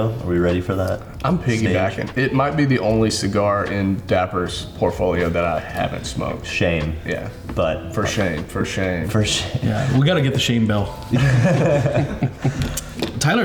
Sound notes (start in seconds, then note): 9.5 chuckles; 11.1 all laughing